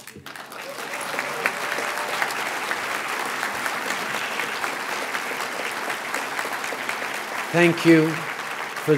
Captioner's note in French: Applaudissements